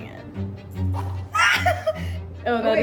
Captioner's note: scream